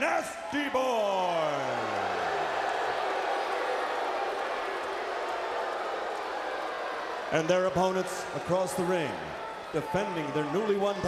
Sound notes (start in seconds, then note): 2.0 crowd chatter